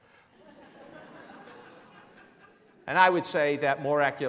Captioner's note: laughing